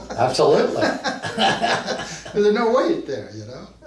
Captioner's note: both men laugh